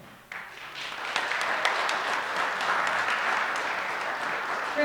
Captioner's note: audience clapping